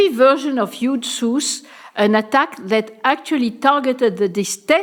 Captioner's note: french